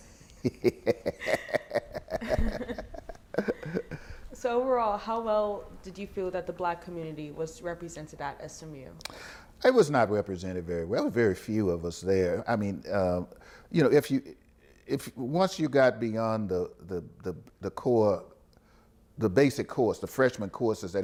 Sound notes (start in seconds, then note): 2.0 interviewer laughs